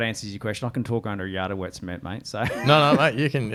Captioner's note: laughs